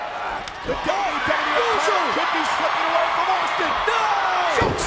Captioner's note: overlapping chatter